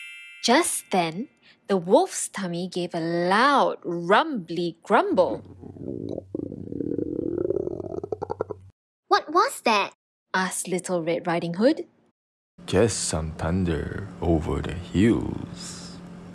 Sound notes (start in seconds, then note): 5.3 tummy rumbling